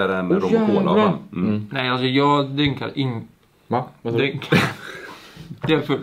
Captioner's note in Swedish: fniss